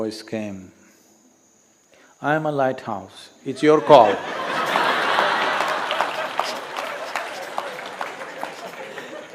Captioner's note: laughter/Applause